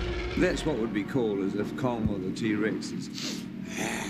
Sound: snorts

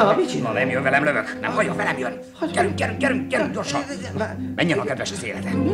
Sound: whispers

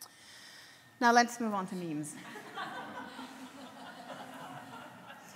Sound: audience laughs

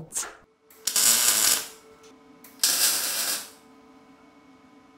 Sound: tool crackles

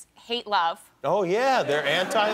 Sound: laughter

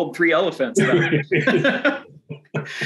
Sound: laughter

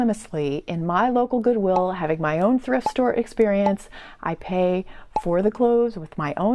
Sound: pop

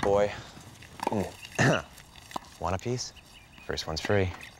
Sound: clears throat

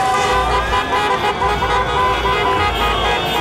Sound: honking

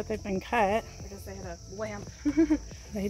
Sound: laugh

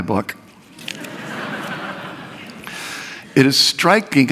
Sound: laughter

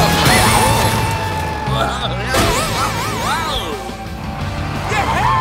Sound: groaning

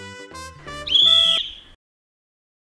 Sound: whistle

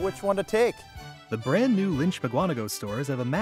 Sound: voiceover

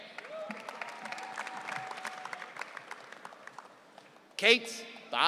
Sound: audience cheering

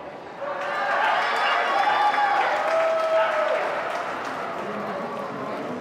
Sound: crowd cheering and clapping

